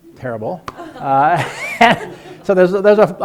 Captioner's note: laughing